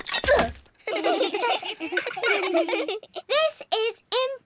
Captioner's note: all giggle